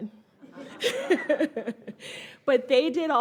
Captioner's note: all laugh